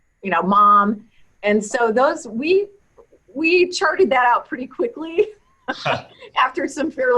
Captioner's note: chuckles